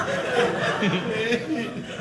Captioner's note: audience laughing